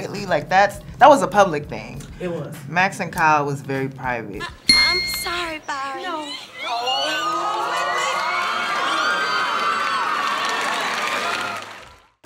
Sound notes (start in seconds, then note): 6.9 wedding guest gasp in unison; 10.6 applause